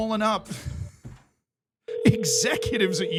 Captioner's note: laughs